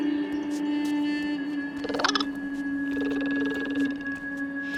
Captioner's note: chittering